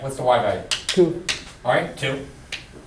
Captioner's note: voiceover